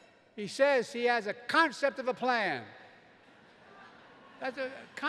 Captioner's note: laughter